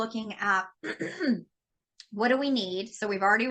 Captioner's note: clearing throat